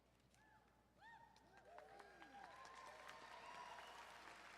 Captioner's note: crowd applauding